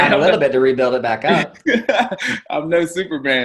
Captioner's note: laughing